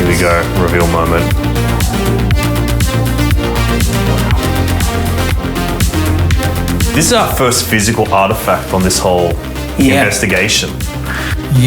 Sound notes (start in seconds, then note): 0.7 exhales; 3.0 upbeat music